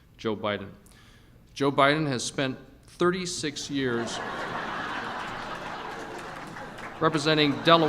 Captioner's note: laughter